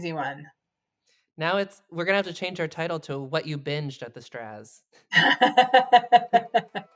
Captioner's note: laughs